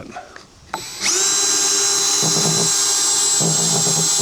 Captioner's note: motor whirring